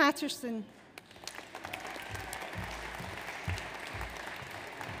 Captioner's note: audience applauds